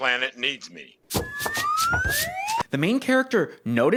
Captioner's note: slide whistle up